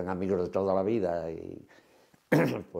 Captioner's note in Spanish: carraspea